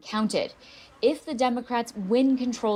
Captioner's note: crowd noise